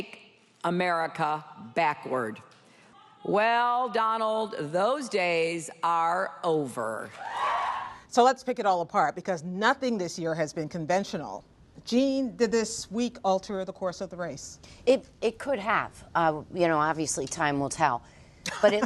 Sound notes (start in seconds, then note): 7.1 cheers